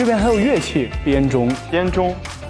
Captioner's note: chime bells